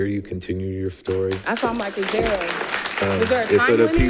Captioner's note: audience applauding